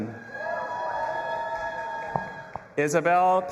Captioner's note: audience applauding and cheering